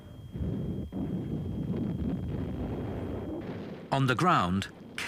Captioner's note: bombs blasting